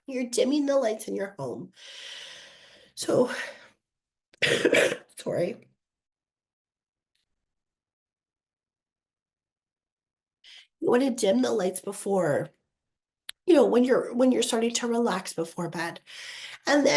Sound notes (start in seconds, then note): 4.4 coughing